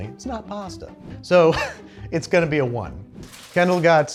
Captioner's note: laughs